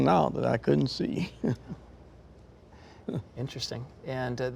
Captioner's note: chuckles